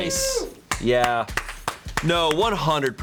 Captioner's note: crews clapping